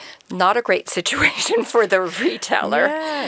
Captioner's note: chuckles